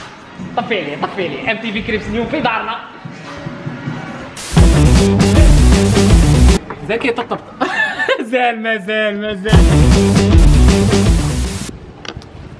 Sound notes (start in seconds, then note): 7.5 laughter